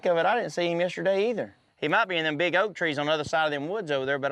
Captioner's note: none